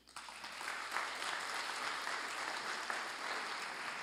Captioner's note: applause